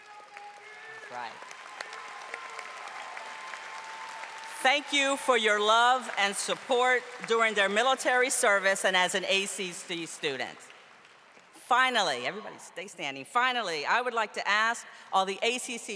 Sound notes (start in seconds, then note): 3.0 audience applauding